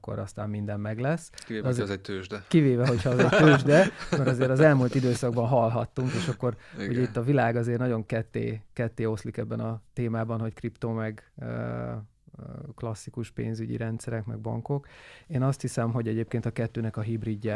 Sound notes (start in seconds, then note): 2.8 laughs